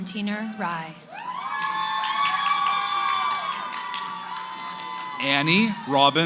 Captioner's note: cheering